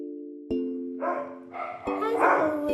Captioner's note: dogs barking